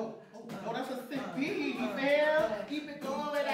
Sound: NYer2 continues "uh" pattern, other NYer starts beatboxing

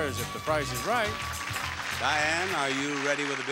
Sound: audience applauding

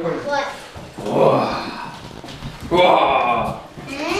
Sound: roaring

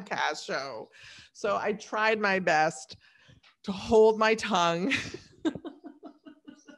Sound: laughs

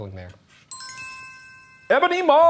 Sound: chimes chiming

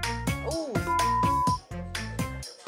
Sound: beep

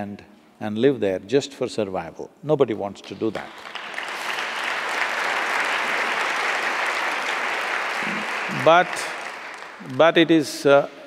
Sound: applause

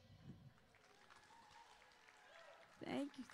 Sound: audience applauding

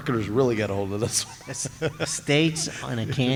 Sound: laughter

